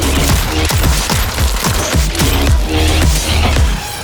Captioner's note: upbeat electronic music continues; guns blasting